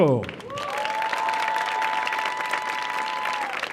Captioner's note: audience cheering